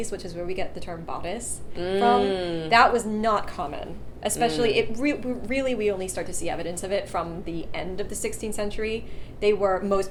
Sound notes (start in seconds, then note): none